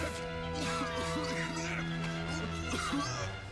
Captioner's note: both coughing